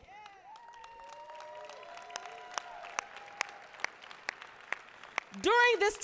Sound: applause, cheering

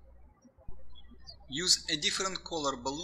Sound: birds chirping

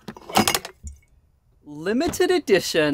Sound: fridge door bangs; bottles clanking

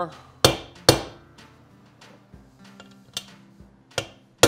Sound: hammer tapping

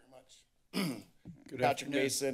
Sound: clears throat

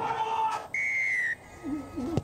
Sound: whistle blows

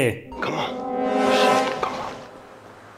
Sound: dramatic sound

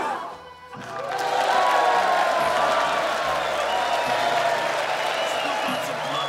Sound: crowd gasping; all cheering

